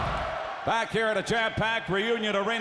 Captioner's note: crowd cheering